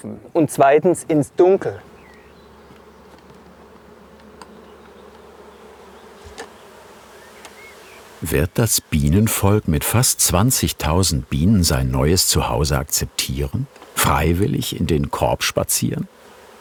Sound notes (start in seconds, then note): 2.1 buzzing